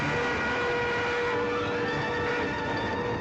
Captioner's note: horn continues blowing